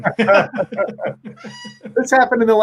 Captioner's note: both laughing